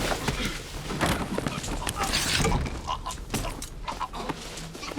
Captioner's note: gags